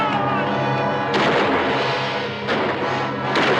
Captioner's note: screaming loudly; guns firing